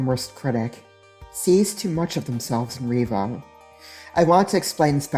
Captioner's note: sharp inhale